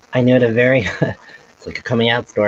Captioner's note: chuckles